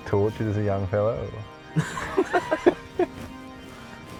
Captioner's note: both laugh